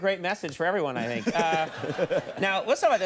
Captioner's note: all laughing